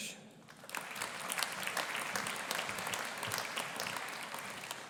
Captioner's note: audience applauding